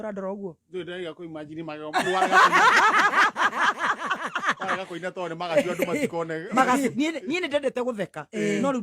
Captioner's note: laughter